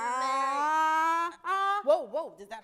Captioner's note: ahs